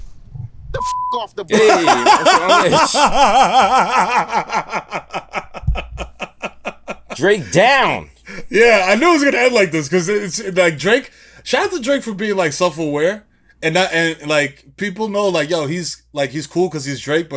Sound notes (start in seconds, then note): 1.5 laughing